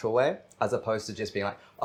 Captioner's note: none